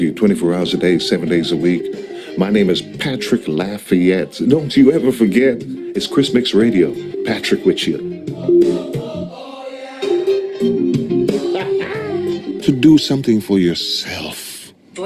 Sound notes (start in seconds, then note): 8.3 lively music; 11.4 laughing